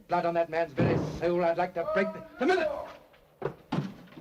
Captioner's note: downstairs door bangs open